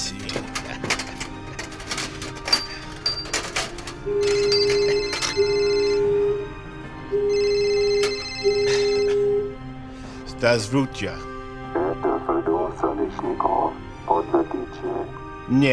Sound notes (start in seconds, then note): 4.6 phone ringing; 10.6 speaking in a foreign language